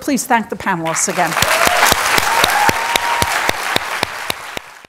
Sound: audience applauding and cheering

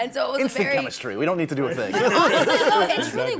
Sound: laughter

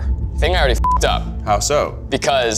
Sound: beep

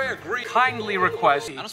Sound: ABED is doing the alien noises that sound like a turkey gobbling

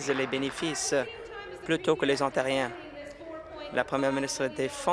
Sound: applause

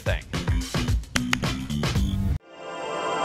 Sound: claps hands twice

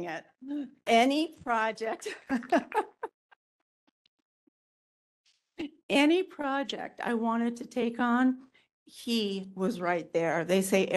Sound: laughing & Applause

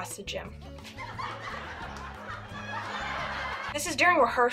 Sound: laugh track playing

